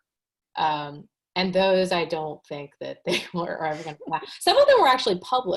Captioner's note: chuckles